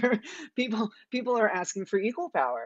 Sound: giggles

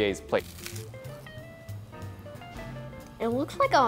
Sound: crunches

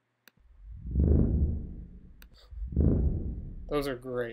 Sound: airy whooshing bass

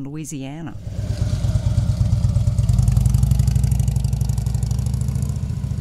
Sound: motorcycle engine roaring

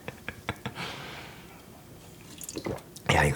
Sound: Gwang-hee gulping

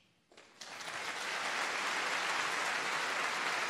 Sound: applauds

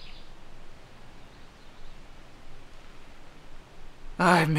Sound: birds chirping

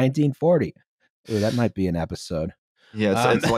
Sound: breathes in quickly

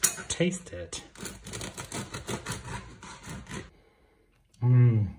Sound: knife scraping

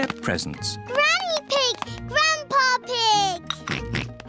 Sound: oinks

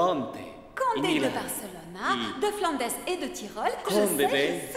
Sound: Elizabeth speaks in a foreign language

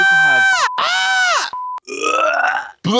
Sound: Trixie shrieks

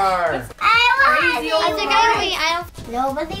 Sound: chatter

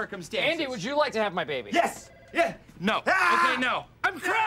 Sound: screams

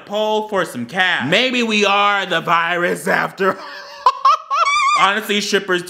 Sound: laughs

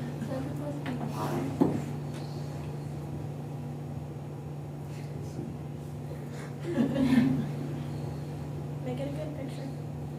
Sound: laughter

